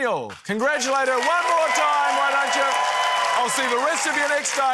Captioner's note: cheering, applause